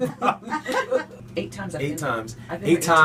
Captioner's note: laughing